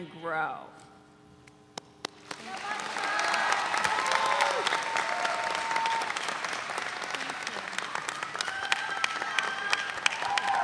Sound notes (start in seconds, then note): 2.4 audience cheering